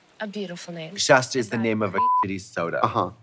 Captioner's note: beep